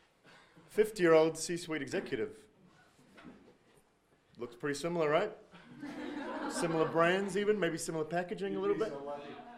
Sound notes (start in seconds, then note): 5.6 audience laughing